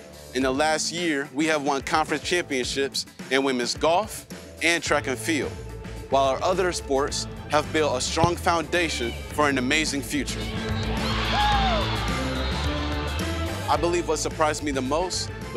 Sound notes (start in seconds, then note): 10.3 cheering